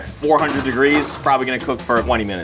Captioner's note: pan scrapes